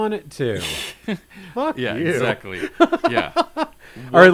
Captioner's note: laughs